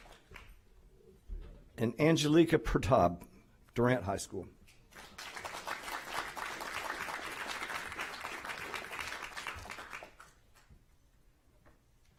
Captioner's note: applause